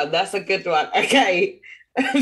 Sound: laughs

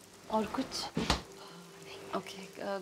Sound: fridge door closes

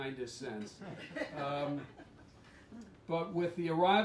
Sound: laughter

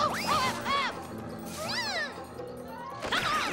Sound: whimpering

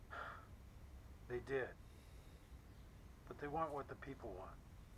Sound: sigh

